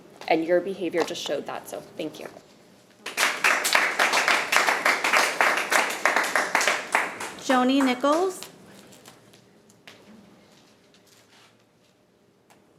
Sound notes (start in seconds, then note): 3.0 attendees clapping